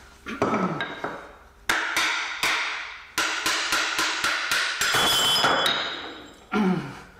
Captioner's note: hammer action